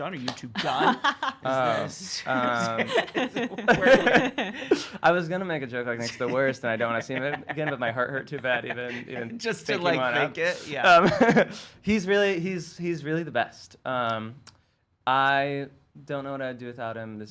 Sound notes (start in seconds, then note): 2.3 laughs; 11.4 laughs